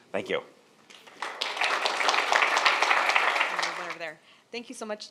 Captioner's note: audience applauds